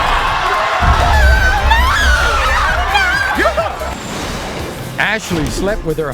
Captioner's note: audience cheers